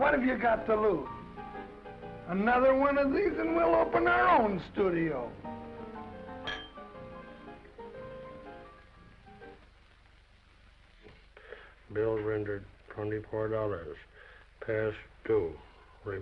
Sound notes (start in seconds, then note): 6.4 glasses clinking; 7.3 gentle music